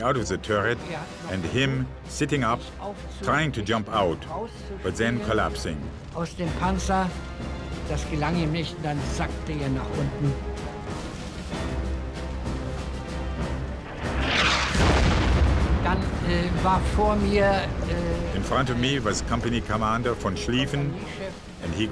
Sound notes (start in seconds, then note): 6.4 speaking in foreign language; 14.0 shell exploding; 16.0 speaking in foreign language